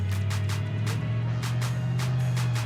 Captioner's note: truck driving